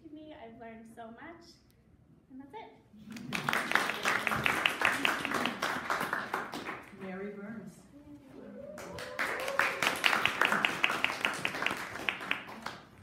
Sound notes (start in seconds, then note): 3.1 audience applauding; 8.6 audience applauding